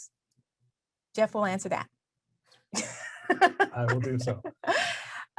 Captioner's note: laughs